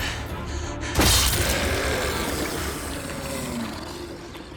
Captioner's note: groaning